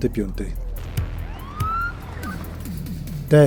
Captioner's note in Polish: policyjnŏ syryna